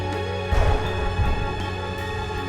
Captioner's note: thunder rumbling